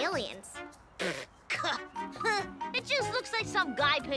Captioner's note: boy laughs